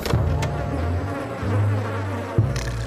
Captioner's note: flies buzzing